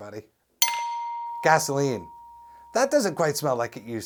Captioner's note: SFX: gas station bell